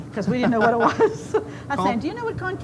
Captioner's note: laughs